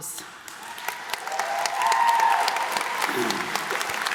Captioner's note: applause